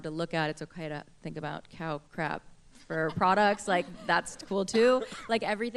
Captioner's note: laughter